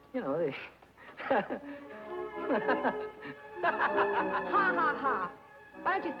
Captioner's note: Billy laughing